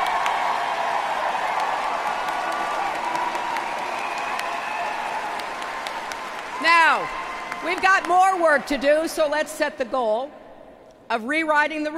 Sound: applause

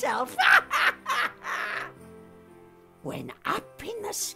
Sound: Zelda laughs

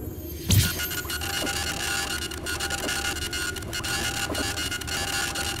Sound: scratching sound

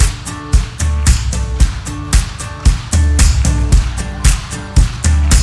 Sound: audience clapping

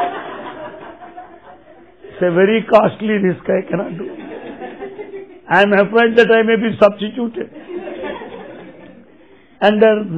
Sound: laughter

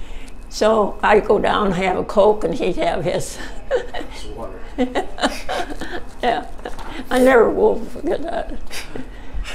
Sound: chuckles

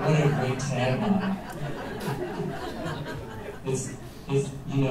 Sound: laughter

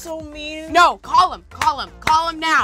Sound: claps

